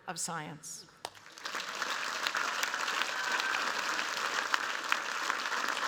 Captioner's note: cheers, applause